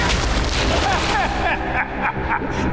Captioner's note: laughing